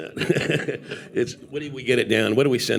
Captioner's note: laughing